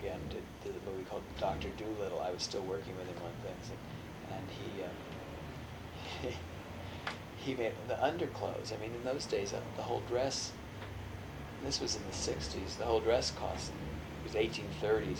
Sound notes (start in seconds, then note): 6.0 laughs